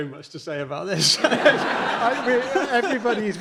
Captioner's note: audience laughing